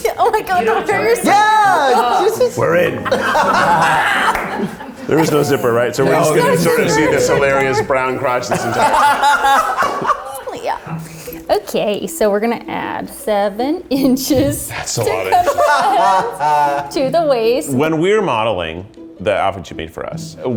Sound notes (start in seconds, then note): 3.6 all laughing; 8.2 laughing